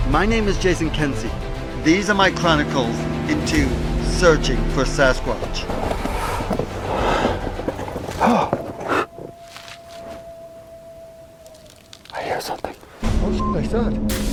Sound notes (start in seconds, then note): 5.6 object thudding; 8.4 sighs; 9.8 animal howling; 13.3 beep